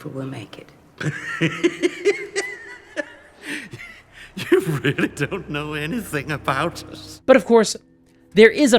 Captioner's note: laughs